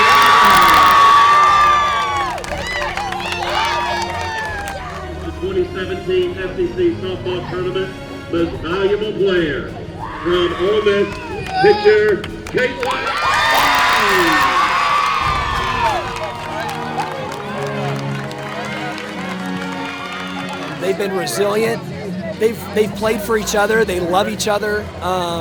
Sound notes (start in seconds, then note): 0.0 cheering; 13.6 cheering